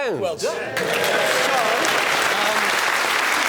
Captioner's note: clapping